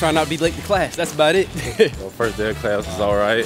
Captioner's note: chuckles